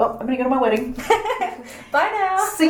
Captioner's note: laughs